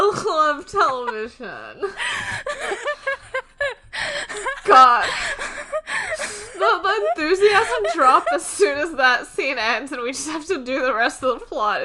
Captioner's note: laughing; laughing